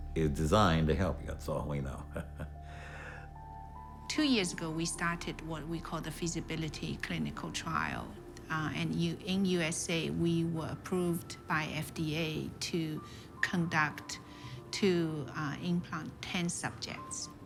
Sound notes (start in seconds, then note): 1.9 chuckles